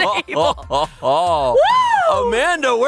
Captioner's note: both laughing